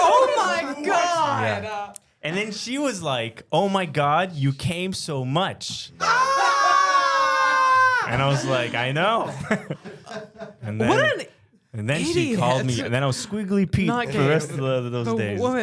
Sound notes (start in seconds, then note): 8.1 zak shrieking